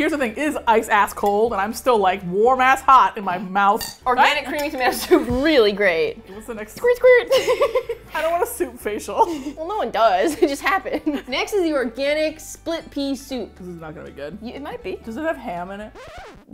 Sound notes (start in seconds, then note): 7.3 laughing; 7.3 laughs; 15.9 record scratch